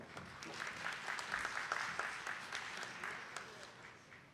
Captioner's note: attendees clapping